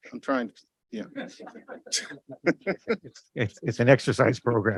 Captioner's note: laughter